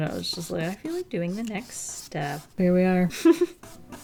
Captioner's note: chcukle